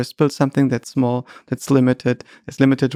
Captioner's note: none